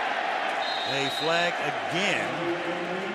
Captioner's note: whistles